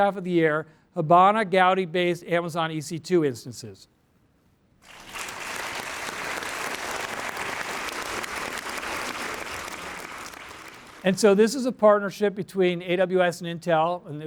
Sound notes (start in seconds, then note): 4.8 applause